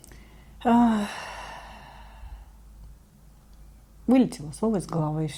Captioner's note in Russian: вздыхает